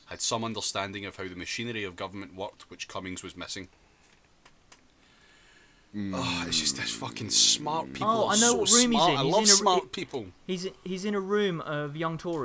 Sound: sigh

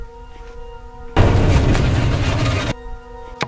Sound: loud panicked running

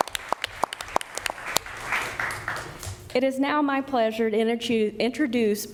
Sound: applause

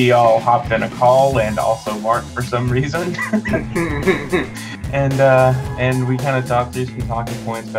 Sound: both laugh

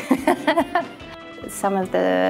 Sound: laughs

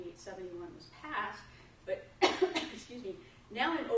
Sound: coughs

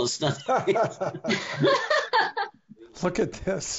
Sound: all laughing

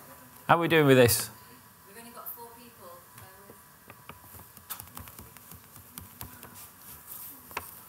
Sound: back ground talk from IT support

